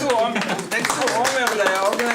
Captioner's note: audience applause; indistinct conversation